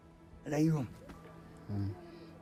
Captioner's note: speaks foreign language